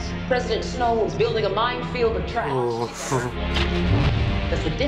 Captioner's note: chuckles